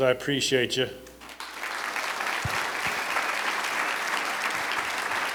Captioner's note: applause